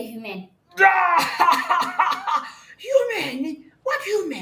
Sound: bursts out laughing

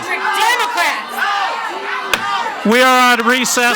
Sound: audience shouts indistinctly; gavel bangs

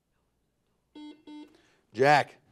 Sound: buzzer buzzes

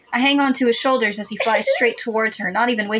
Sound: cutesy Giggle

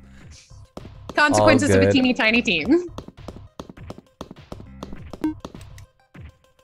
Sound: footsteps

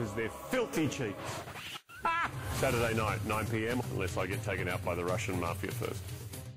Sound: laughs

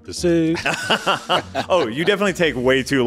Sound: laughing

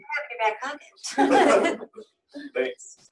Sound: laughter

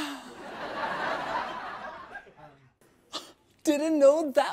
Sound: audience laughs

